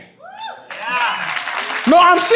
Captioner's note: audience cheers; audience applauds